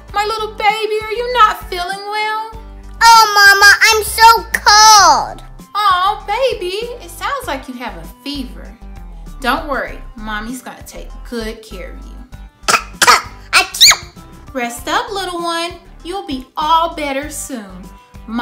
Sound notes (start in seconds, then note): 12.6 coughing noises; 12.6 sneeze